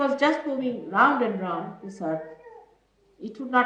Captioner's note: none